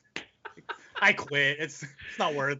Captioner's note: laughing